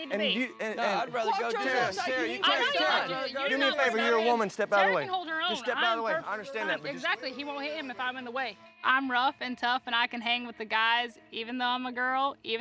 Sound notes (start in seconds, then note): 0.0 overlapping shouts